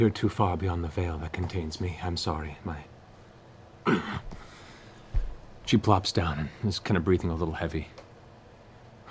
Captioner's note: pained grunt